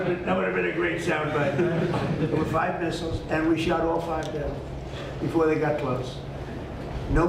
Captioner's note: laughter